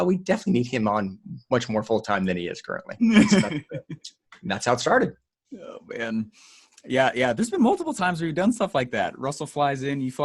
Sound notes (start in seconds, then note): 3.0 laughing